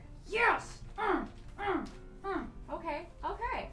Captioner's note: grunt. grunt. grunt